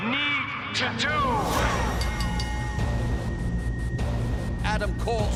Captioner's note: bell ringing